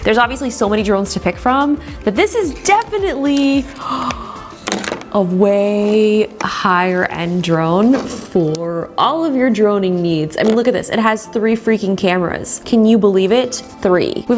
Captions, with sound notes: There's obviously so many drones to pick from but this is definitely (gasps) a way higher end drone for all of your droning needs. I mean, look at this. It has three freaking cameras. Can you believe it, Three.